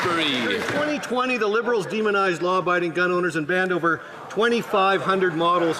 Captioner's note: some Applause